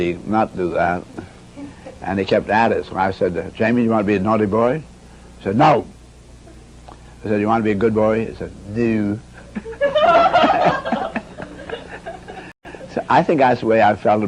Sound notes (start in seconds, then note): 9.4 everybody really chuckled